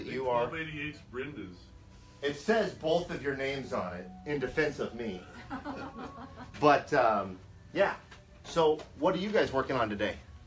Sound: laughing

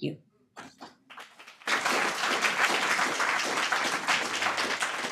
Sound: audience applauding

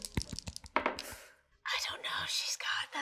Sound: dice thudding

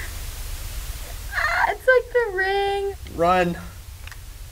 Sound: gasps; TV static; weak scream

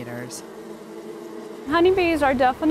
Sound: bees buzzing

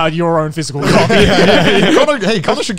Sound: everyone laughs

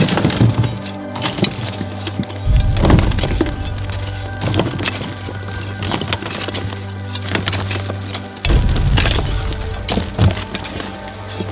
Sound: continuous Thud

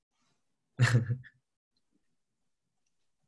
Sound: laughs

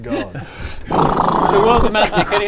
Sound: brrrrrrrrrrrrrrrrrrrr

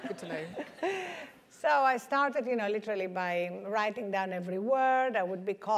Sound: laugh

